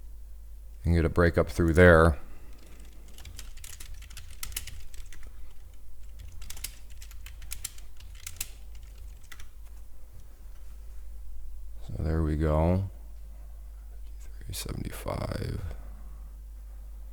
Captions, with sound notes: Get a breakup through there. (typing on keyboard) So there we go, 53.75.